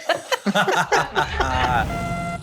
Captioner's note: laughing